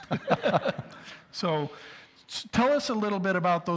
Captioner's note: both laugh